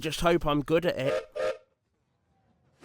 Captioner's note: gilbert whistles